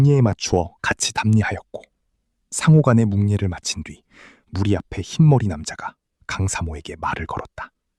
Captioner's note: sigh